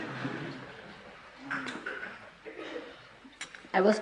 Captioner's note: laughter